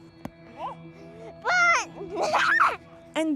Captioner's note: screaming and laughing